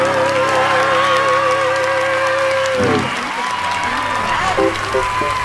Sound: stadium crowd cheering

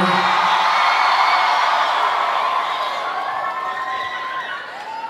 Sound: audience applauding

